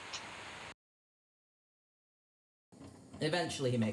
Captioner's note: computer fan; shutter clicking